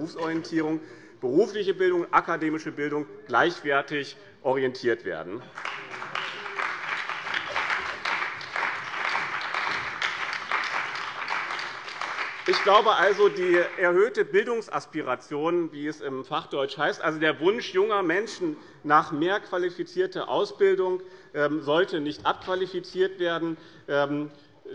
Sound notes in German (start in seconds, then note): 5.4 Beifall bei dem BÜNDNIS 90/DIE GRÜNEN und der CDU